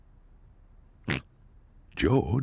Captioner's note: snorts